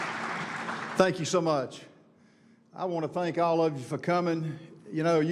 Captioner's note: applause